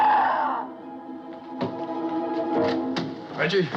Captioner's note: screams